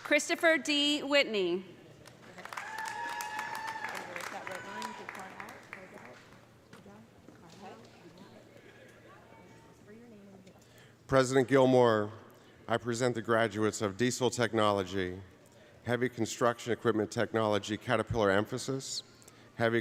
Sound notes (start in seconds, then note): 2.0 audience applauding; 2.4 audience cheering